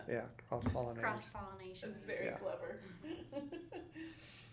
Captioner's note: laughing